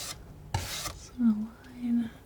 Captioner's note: scratching